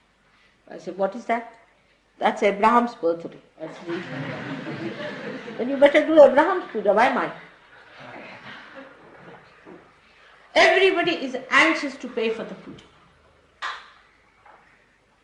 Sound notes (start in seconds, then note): 3.7 laughter